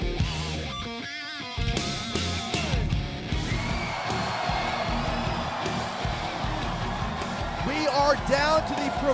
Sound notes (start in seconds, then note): 3.3 crowd cheering